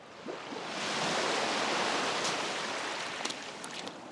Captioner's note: waves crashing